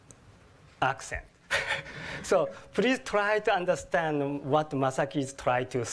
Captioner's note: laugh